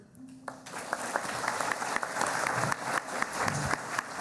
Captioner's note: applauding